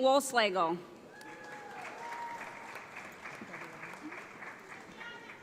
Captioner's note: audience applauds